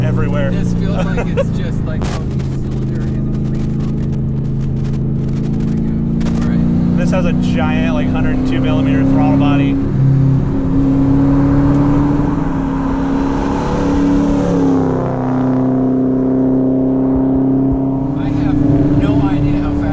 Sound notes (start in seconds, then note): 12.7 LS exhaust sound. You know